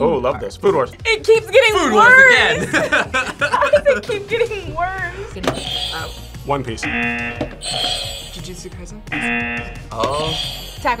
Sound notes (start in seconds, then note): 1.6 laughs; 6.8 buzzer rings; 6.8 buzzer; 9.1 buzzer rings